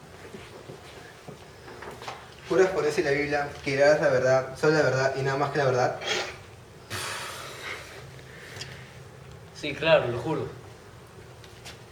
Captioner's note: sighs